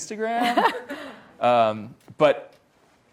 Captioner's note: laughs